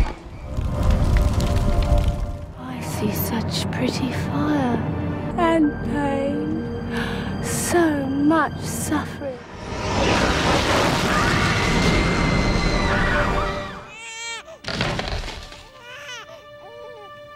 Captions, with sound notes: i see such pretty fire and pain so much suffering [baby connor crying]